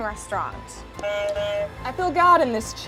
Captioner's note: buzzer honks